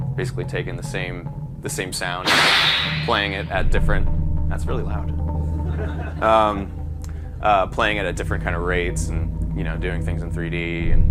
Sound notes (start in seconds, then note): 2.2 whip cracking; 5.6 laughter